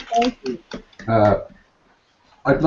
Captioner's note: applauds